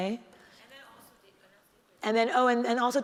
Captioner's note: speaks faintly